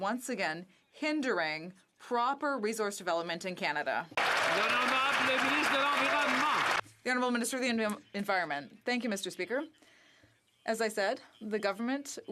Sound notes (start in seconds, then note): 7.0 some Applause